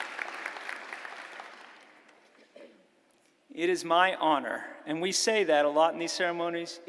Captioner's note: applause